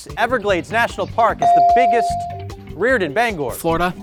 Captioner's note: bell dings